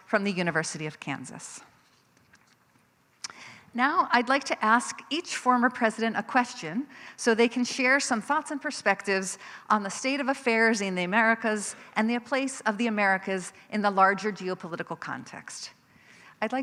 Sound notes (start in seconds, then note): none